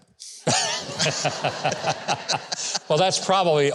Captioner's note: Huckabee laughs